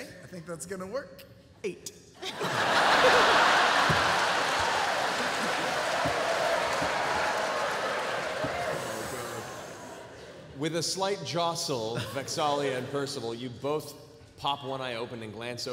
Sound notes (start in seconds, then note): 2.2 laughter